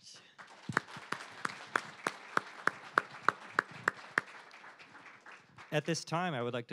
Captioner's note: applause